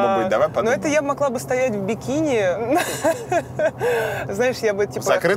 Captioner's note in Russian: смеётся